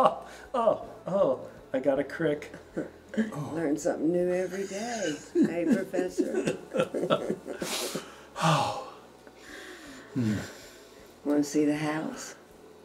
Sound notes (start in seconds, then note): 7.6 sighs